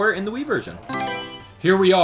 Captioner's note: Mario Selection Sound